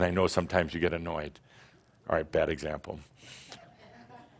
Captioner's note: a few chuckles